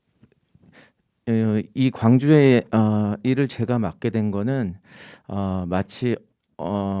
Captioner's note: speaking in Korean